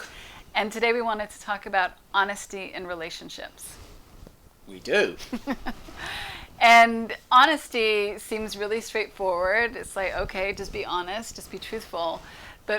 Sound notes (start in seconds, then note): 5.3 chuckles